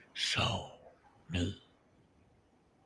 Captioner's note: heavy voice